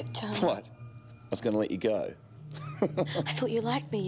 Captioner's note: laughs